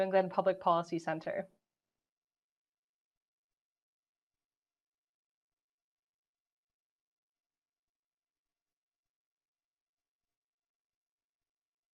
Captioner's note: silence